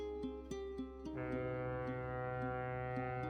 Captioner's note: ship's horn